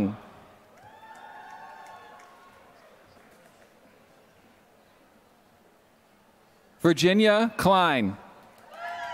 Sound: applause; applause

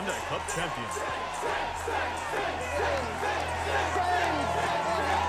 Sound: crowd chanting

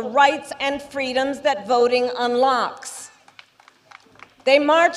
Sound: applause

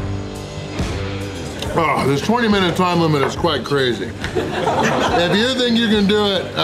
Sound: haha

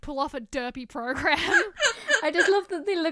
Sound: hosts laugh

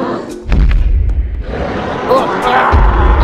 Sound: stomping Sounds with Roars

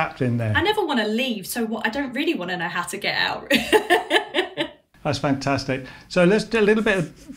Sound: laughs

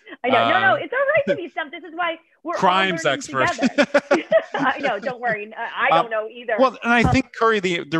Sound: laughter

